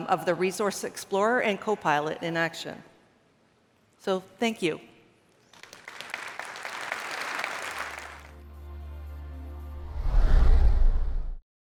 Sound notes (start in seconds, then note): 5.4 applause